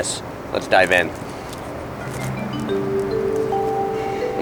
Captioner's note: eating